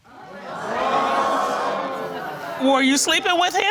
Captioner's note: audience gasps